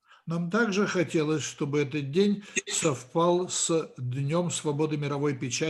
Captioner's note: translator speaking Russian language